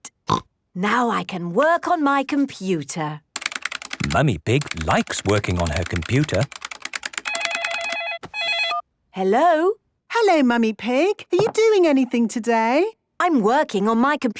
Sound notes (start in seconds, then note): 5.1 phone ringing